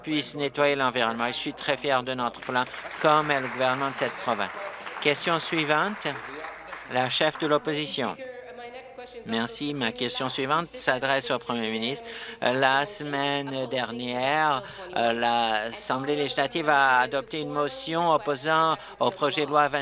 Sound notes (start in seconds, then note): 8.7 applause